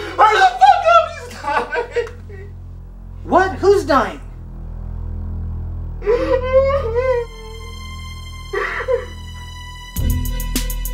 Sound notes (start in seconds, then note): 6.0 Ricky sobs; 7.4 upset music